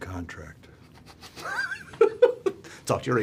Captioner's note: laughs